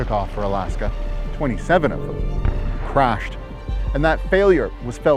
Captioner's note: aeroplane thuds